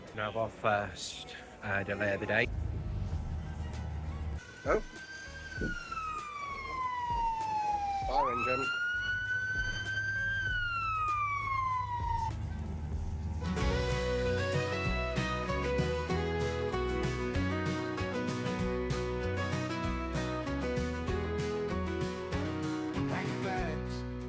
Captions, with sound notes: We have our first uh delay of the day Oh! Fire Engine! [Siren]